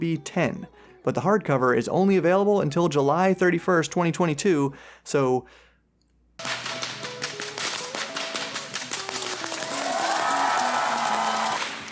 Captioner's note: cracks whip